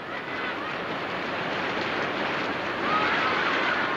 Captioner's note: thunder claps